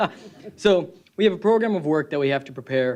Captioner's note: laughter